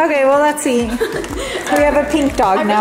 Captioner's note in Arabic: قهقهات البنات